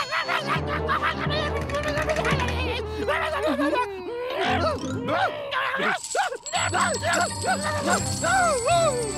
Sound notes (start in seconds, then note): 5.8 coins jangling